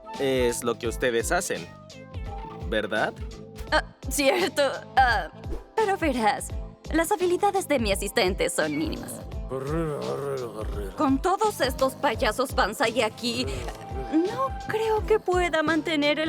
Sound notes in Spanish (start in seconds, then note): 8.7 Roncando; 10.8 Voz inocente fingida